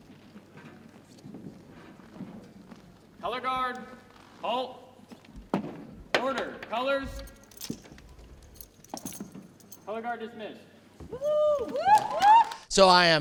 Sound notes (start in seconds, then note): 5.9 metal rattles; 11.2 audience cheering and applauding